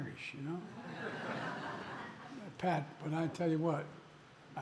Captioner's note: laughter